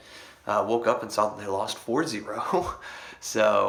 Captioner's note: laughs